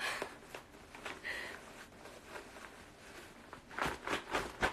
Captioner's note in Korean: 꾸깃꾸깃